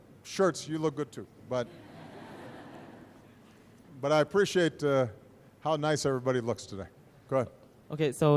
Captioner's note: laughter